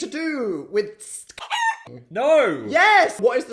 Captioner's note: chicken clucks